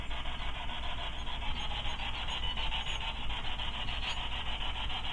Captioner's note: rhythmic swishing